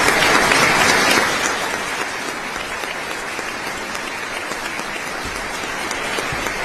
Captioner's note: applause